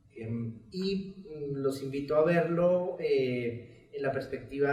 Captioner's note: speaks in Spanish